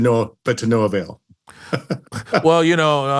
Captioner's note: <i>chuckles</i>